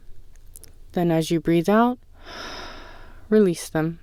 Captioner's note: exhale